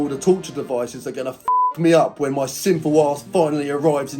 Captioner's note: beep